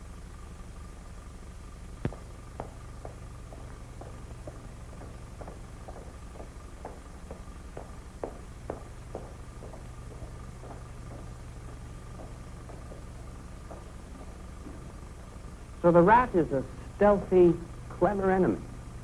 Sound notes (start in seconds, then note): 2.0 footsteps